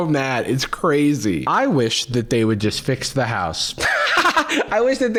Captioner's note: laughs